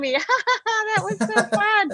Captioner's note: imitates laughter